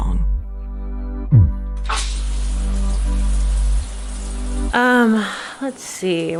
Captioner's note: ominous music; water showers